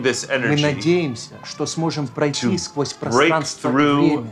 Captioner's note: it's russian